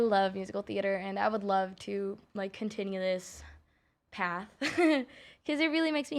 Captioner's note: chuckles